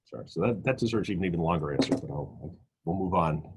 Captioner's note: popping sound